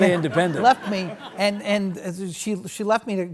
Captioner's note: audience laughs